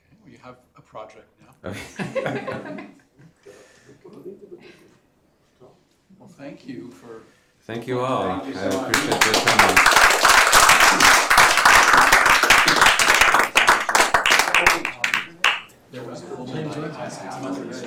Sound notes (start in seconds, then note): 1.6 laughter; 8.8 applause